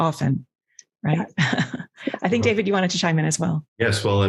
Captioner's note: chuckles